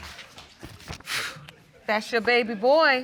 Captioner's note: sighs